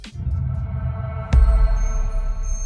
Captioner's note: low rumbling; bright tinkling